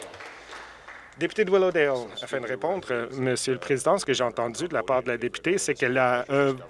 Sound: some Applause

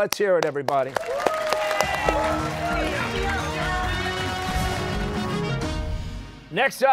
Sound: cheers and applause

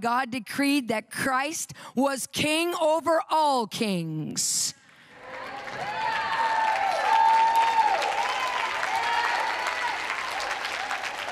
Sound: audience cheering

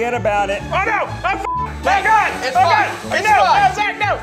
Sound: beep

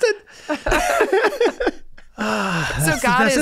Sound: Rob and Megan laughing

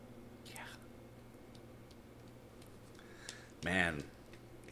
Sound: clapping

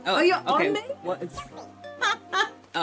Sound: laughs

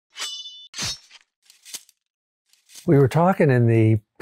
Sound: sword slashes

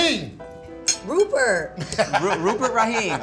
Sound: laughs

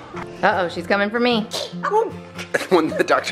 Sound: toddler sneezes

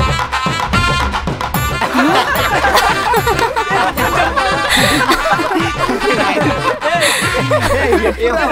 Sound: everyone laughing

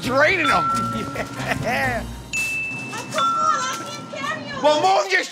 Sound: chuckling

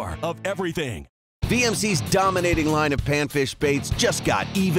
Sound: voiceover

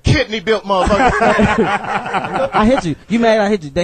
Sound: all laugh

